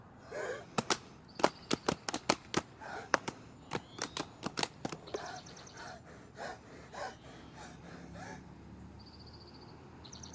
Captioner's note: sounds of breathing